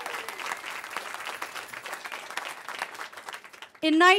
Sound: cheering

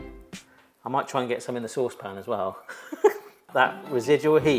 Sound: laughs

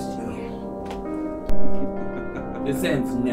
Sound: Thomas laughing

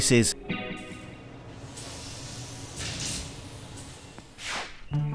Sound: logo whooshing

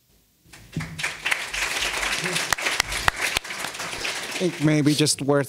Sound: audience applauding

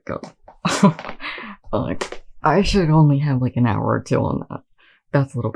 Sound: laughing

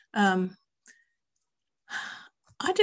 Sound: sighs

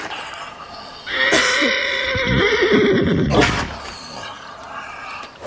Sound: coughing and vomiting; pained neighs

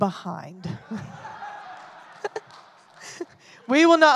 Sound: audience laughing

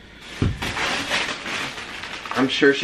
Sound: plastic crinkling

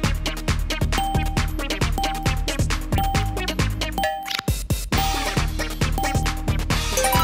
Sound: clock chiming during countdown

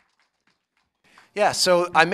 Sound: applause

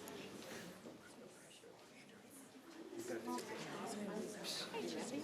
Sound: indistinct conversation

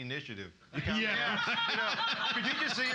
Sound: loudly laughing

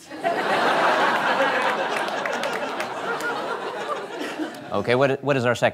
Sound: laughter

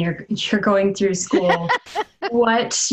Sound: laughter

